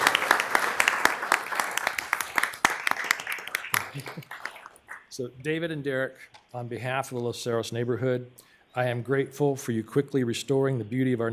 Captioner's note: applause